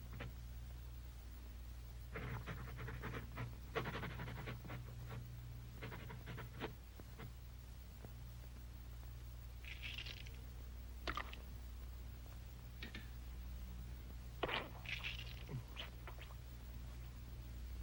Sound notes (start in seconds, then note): 9.6 egg cracking softly; 14.4 liquid spattering softly